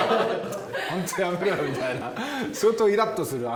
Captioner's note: laughs